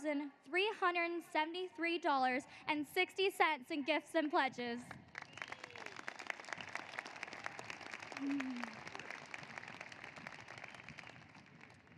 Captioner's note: applause